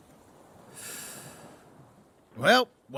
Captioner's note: Nidhiki takes a deep breath